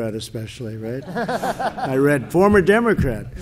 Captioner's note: laughter